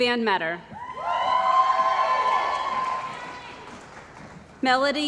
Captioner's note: cheering & Applause